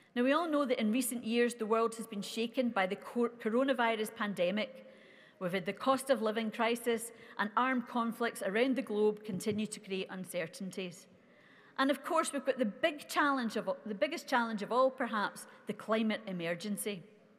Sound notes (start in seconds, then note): none